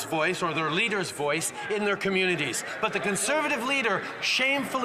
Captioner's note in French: voix de l'interprète